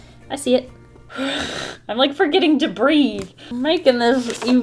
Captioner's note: deep Inhale